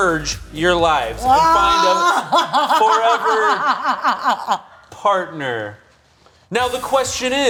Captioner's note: cackling